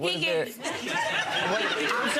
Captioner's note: audience laughing